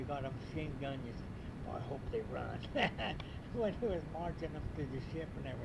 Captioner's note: laughs